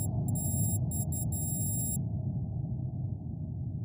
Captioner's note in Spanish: pitidos electrónicos